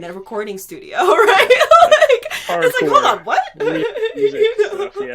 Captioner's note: chuckling